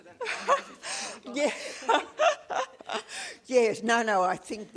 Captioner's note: laughs